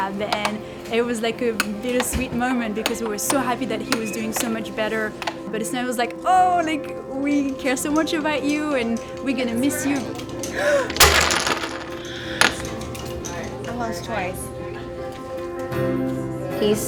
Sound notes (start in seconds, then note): 10.4 gasping